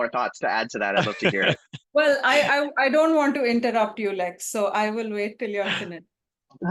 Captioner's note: laughs